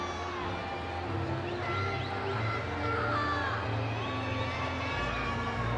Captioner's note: audience cheering